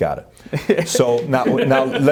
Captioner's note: laughing